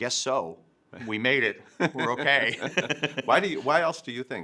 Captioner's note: both laughing